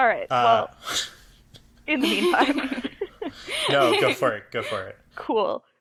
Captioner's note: ALL laugh